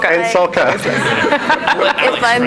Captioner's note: everyone laughs